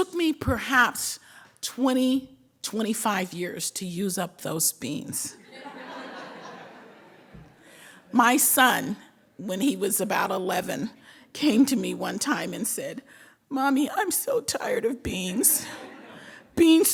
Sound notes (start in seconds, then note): 5.6 laughing